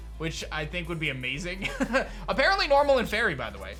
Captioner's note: chuckles